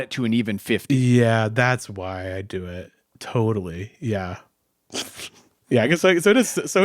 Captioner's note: chuckles